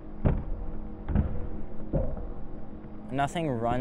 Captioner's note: deep thumping